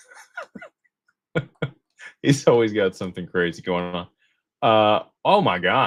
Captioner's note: laughter